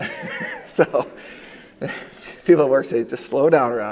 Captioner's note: chuckling